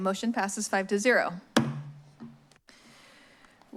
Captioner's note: strikes gavel